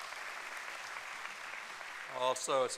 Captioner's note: applause